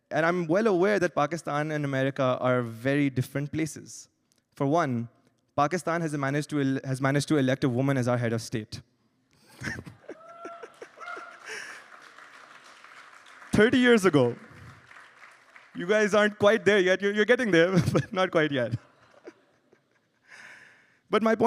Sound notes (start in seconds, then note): 9.6 laughs; 10.1 cheers; 10.2 applause